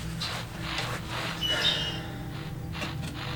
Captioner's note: songbird